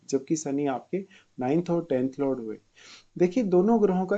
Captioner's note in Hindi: नाक से की जाने वाली आवाज़